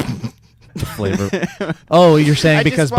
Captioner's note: snorts